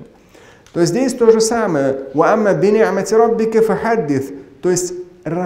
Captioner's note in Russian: говорит на арабском